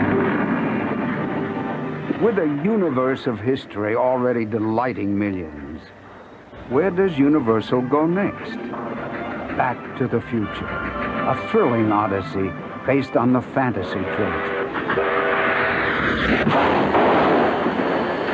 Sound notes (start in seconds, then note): 13.8 train horn; 16.5 explode